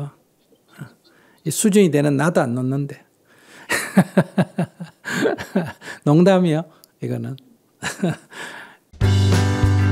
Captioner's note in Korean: 웃음